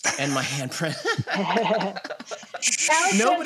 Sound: laughs

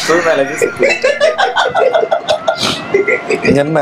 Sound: laughing

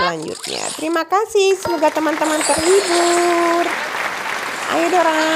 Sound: applause

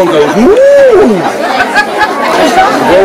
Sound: laughter

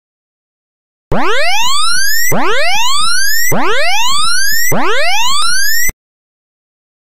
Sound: sound of alert alarm

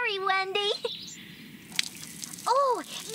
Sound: sprinkling Water

